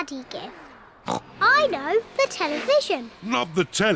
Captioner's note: oinks